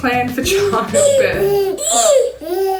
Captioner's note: baby cooing